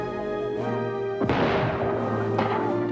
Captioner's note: shot sound